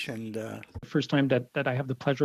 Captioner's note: speaking French